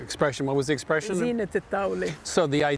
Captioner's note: speaking Arabic